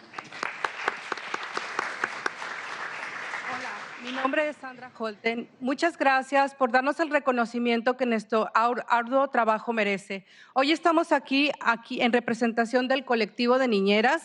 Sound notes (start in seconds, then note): 0.0 applause; 4.5 speaking foreign language